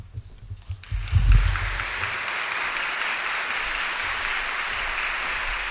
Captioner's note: audience applauds loudly